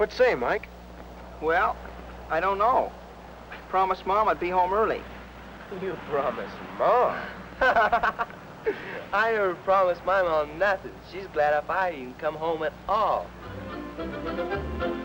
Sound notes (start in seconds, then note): 7.5 laughs